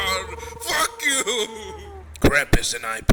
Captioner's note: crying